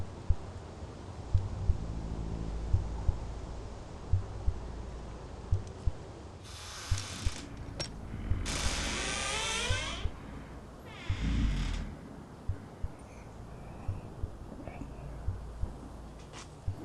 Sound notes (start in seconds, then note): 6.6 chains clanking; 6.6 door squeaking; 11.5 wolf grumbling